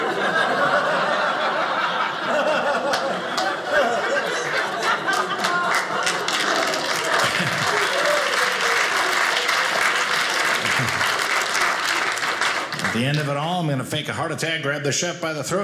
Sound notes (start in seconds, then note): 0.2 audience laughing; 6.0 audience applauding